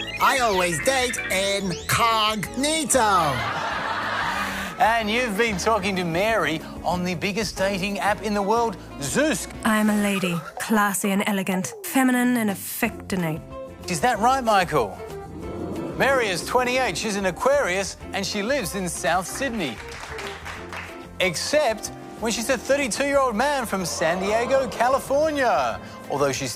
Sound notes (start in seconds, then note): 3.2 laughter; 19.2 applause